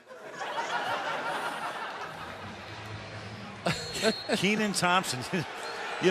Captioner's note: laughter